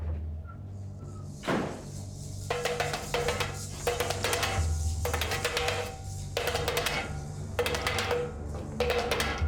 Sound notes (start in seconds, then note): 1.4 door shuts; 3.7 metal clinking bars